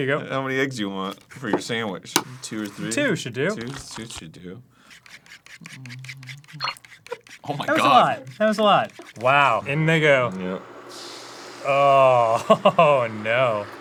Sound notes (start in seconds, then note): 4.7 fork whisking; 5.6 bloop; 10.9 green eggs sizzle